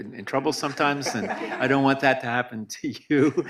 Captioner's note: audience laughs